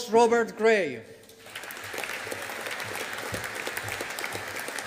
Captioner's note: audience applauding